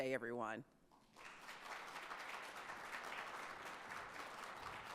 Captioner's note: audience applauds